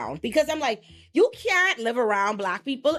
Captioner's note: none